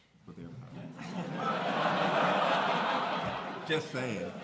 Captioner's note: laughter